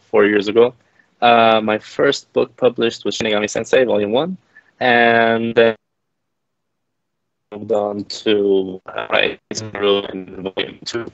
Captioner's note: audio glitches temporarily